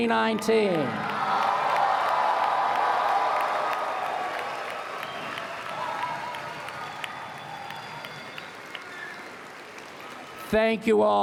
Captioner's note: applause